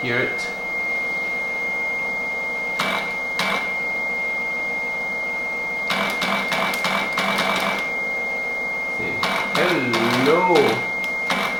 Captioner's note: RTTY Baudot tones